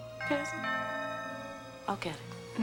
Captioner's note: doorbell rings